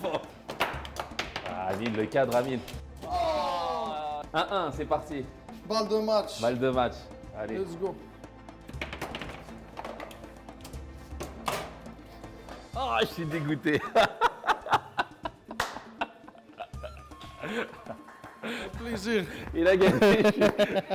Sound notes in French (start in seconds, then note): 13.7 rire